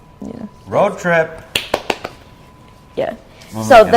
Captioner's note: clapping